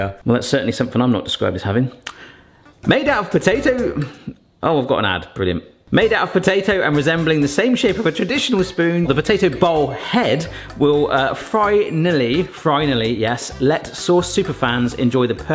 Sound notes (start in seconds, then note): none